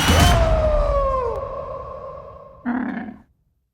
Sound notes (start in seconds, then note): 2.6 camel grunts